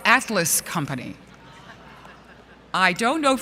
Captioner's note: laughter & "Oh God" From Audience